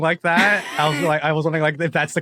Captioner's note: wheezes